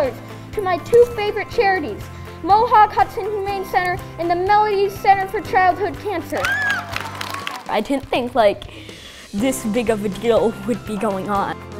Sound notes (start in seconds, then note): 6.4 cheering